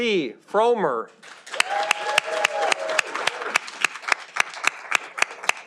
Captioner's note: audience applauding